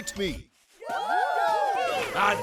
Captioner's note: cheering